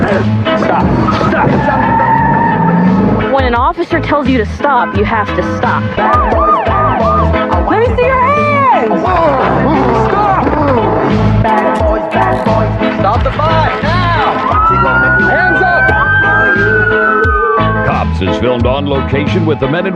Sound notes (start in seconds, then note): 1.7 skidding